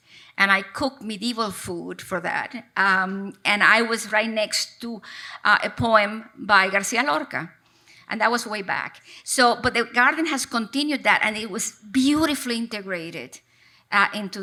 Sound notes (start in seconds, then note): none